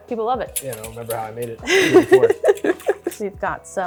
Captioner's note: laughs